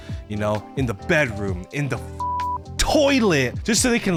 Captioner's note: beep